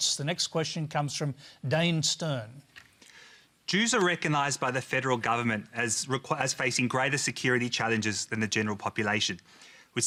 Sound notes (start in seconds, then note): none